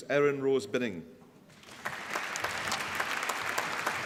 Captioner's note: applause